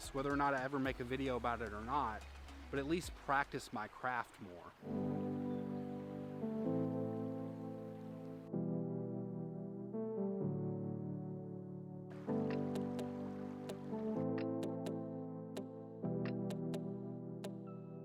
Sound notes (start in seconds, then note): 4.9 calm music; 12.1 water trickling